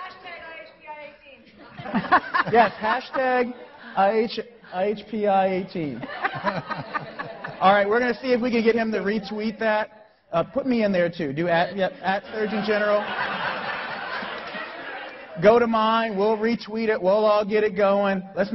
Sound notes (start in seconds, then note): 1.6 laughing; 5.8 laughing; 11.7 laughing